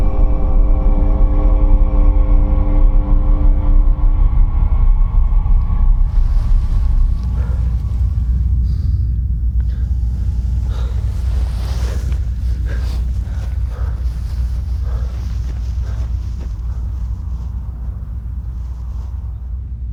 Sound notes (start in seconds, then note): 7.6 low rumbling; 11.1 both panting